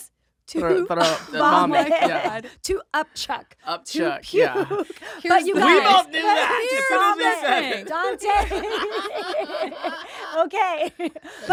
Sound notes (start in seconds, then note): 4.4 laughing; 8.0 giggling; 8.9 laughing